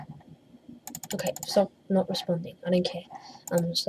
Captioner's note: rapid click!